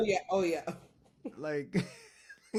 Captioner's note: laughs